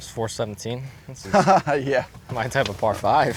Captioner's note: laughs